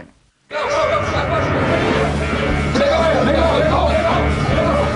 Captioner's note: alarm blaring